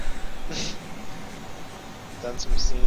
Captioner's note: chuckling